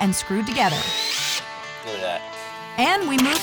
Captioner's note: drilling sound